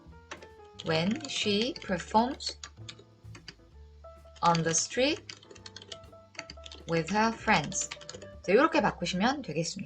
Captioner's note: typing